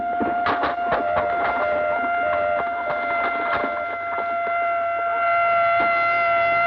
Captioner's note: ambulance siren wailing; alarm beeping